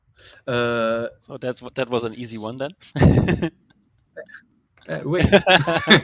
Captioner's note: laughs